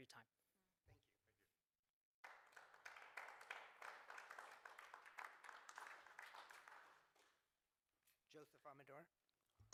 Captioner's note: applause